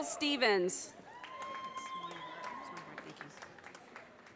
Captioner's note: audience cheers and applause